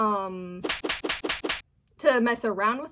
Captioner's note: whip whip whip whip whip